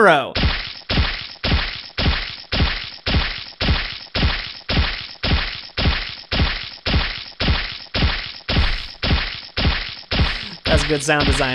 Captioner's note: squishing noise repeating 30 times